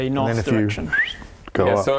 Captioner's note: flippy whistle